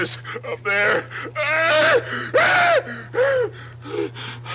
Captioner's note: Barney wailing